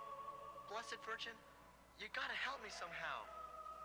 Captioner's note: man over TV